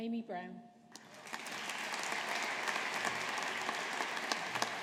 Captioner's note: audience applauding